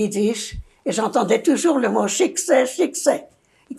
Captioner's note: yiddish